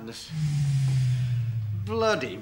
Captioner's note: generator powering down